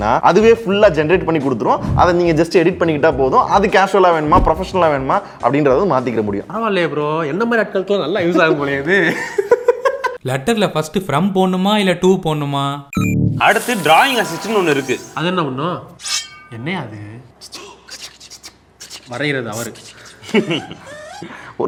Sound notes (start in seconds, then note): 9.5 laughs